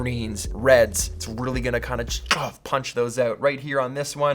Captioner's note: punching noise